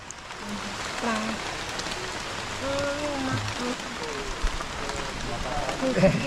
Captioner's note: speaking in foreign language